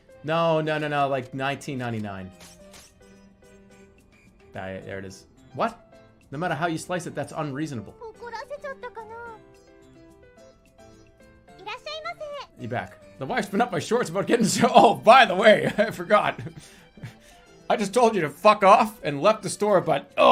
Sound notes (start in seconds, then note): 16.4 giggles